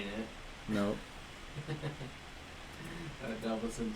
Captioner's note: laughs